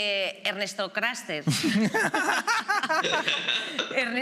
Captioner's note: all laughs